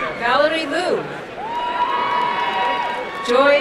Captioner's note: crowd cheering and applauding